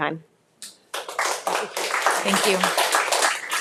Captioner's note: audience applauding